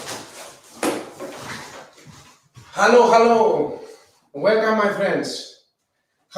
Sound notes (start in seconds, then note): 0.0 boxes thud